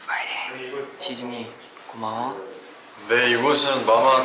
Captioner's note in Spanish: Susurrando